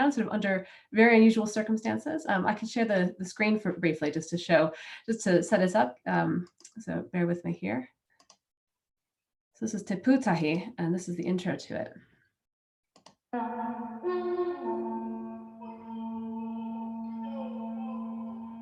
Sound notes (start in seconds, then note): 8.2 clicking a computer